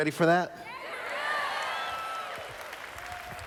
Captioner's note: applause